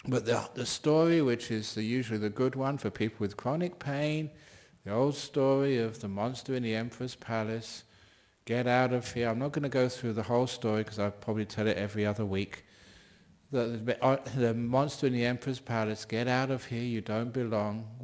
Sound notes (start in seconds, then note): none